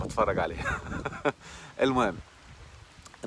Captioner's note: laughs!